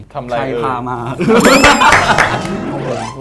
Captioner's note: laugh